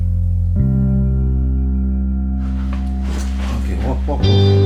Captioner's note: soft rustling